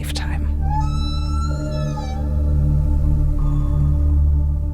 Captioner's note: whale calling